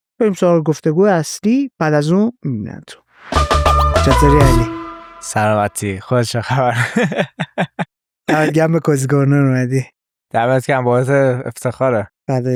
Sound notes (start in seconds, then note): 7.3 laughs